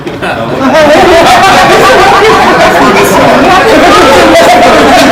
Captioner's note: laughter